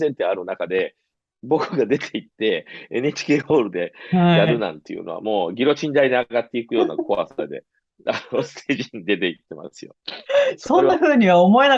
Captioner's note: laughs